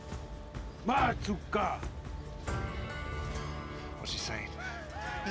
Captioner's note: speaks paiute language